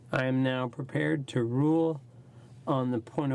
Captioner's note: speaking French